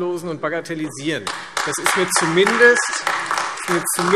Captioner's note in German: Beifall Freie Demokraten und AfD